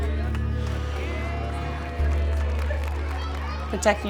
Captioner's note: cheering and clapping